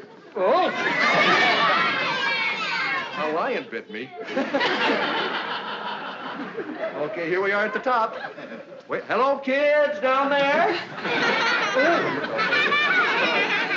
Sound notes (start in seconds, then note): 1.5 shouting; 10.6 laughing